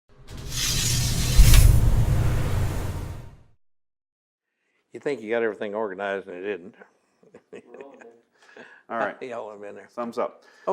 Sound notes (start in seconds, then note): 7.3 laughs